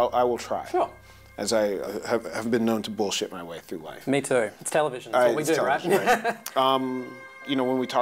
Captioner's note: laughs